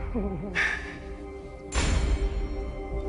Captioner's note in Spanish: Suspiros